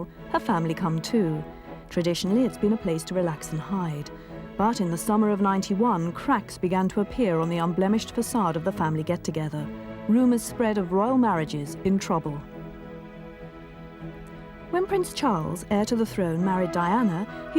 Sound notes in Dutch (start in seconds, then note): none